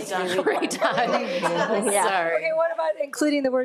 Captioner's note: everyone chuckling